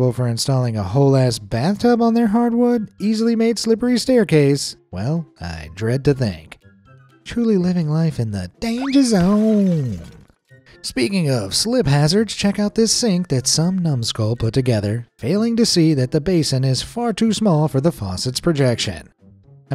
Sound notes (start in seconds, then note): 8.8 tiles smashing; 9.6 air zips